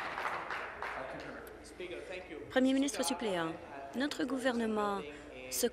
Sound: applause

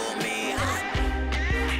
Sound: squawks

